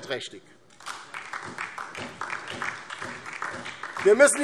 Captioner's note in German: Beifall DIE LINKE und vereinzelt SPD